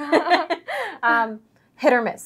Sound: laugh

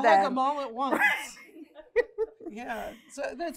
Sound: laughter

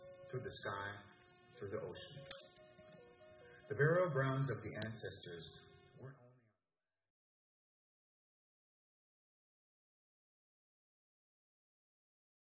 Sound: audio cuts out of stream

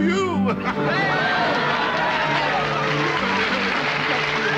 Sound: group cheering

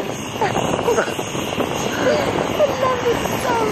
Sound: both laugh

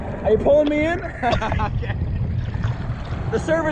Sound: laughing

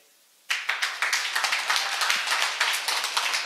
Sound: applause

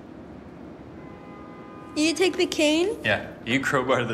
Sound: distant car honks

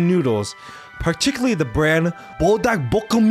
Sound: speaking foreign language

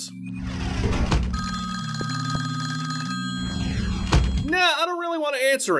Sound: phone ringing

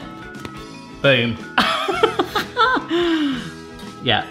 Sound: laughs

